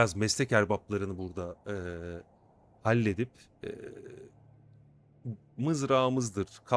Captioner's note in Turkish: boğazını temizler